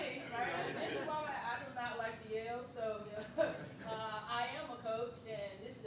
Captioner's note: laughs